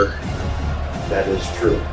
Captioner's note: crowd Noises